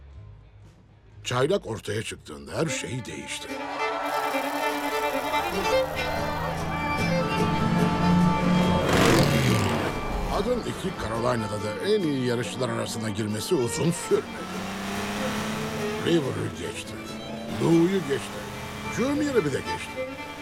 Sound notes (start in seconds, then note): 2.1 fast country music; 8.0 car engines rumbles